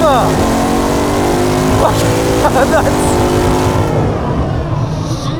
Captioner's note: laughs